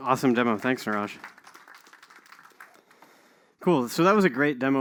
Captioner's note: applause